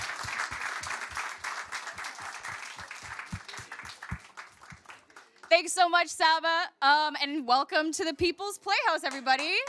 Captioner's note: cheers and applause